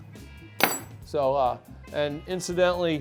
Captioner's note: tool clanging on table